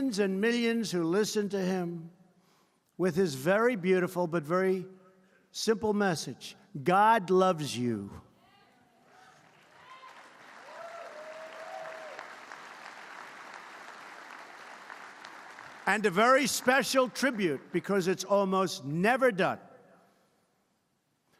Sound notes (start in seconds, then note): 9.1 applause